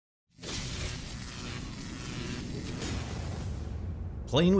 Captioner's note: electricity crackling